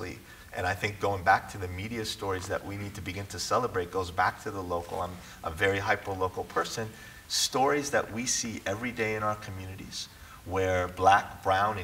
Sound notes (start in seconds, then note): none